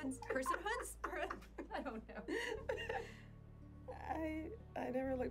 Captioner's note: Nia laughs